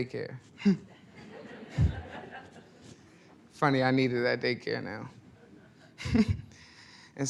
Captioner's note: laughs; laughs